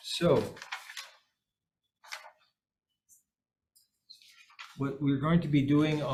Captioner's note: papers rustling